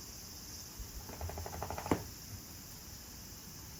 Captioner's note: Codi’s fur-shaking sound